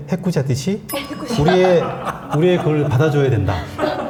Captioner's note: haha